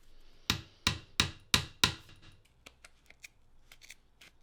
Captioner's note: hammer banging